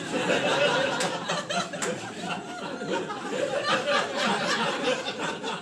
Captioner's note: laughter